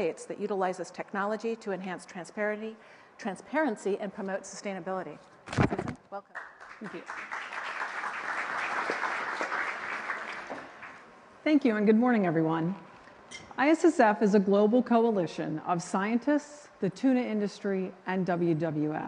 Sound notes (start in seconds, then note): 6.2 applause